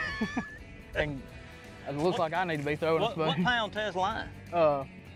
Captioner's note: laughs